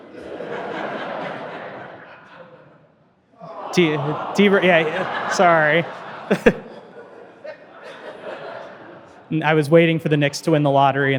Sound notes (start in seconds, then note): 0.0 audience laughing; 9.4 audience laughing; 9.4 chuckling